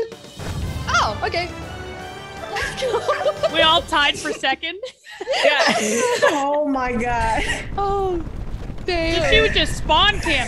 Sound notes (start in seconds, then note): 2.5 laugh